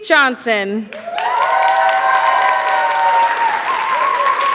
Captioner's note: cheering